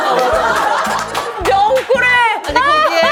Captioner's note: laughing